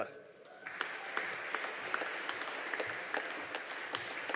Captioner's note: audience applauding